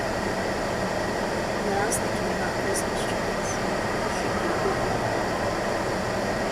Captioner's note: giggles